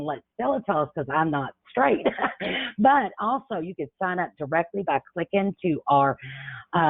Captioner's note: chuckles